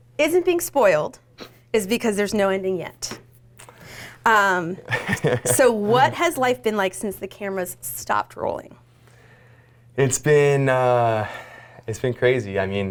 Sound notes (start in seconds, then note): 4.8 laughing